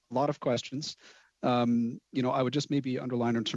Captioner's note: speaking French